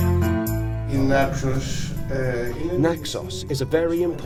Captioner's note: man speaking Greek